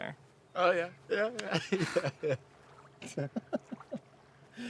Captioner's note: laughing